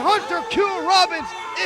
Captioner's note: bell ringing